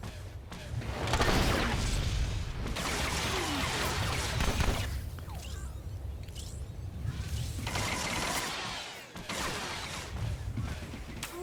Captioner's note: gun firing